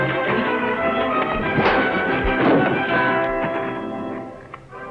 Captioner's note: punch lands